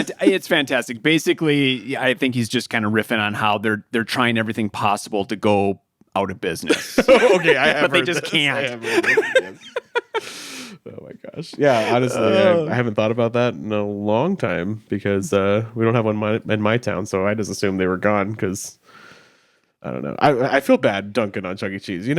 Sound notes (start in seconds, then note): 10.2 chuckling